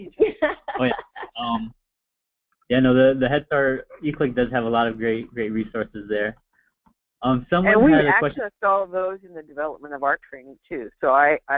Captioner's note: chuckles